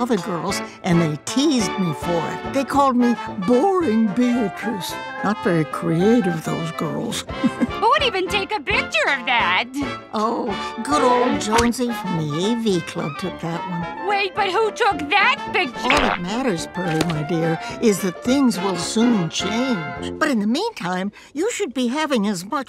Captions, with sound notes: and they teased me for it. They called me Boring Beatrice, not very creative those girls. (chuckles) Who would even take a picture of that? Oh, good ol' Jonesy from the AV Club took that one. Wait, but who took that picture- All that matters Pearly my dear, is that things will soon change. But in the meantime, you should be having as much fun